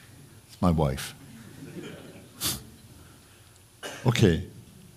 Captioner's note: laughter